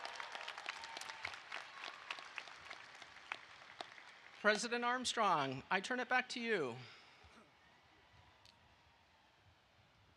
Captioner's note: applause